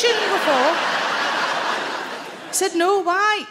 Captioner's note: audience laughing